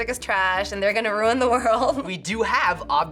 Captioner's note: chuckles